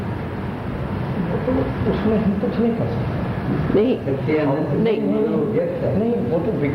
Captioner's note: discussion in Hindi